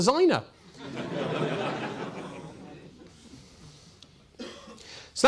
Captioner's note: audience laughing